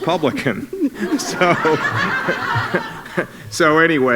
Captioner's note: laughter